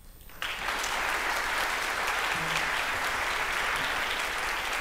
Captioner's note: applause